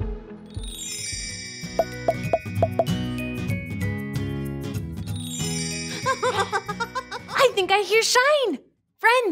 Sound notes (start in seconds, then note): 0.3 cheerful music; 0.7 plopping; 6.0 Shine laughing